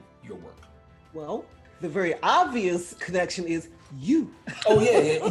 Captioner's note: laughing